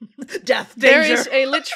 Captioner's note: laughter